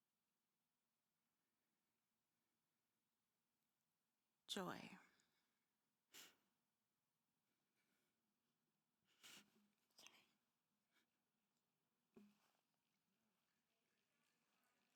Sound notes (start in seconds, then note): 6.1 sniffles